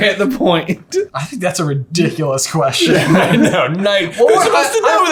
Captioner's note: laughs